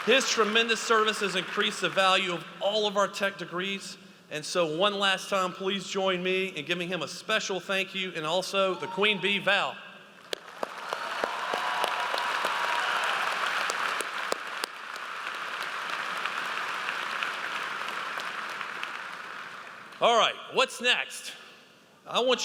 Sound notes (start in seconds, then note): 10.5 audience applauds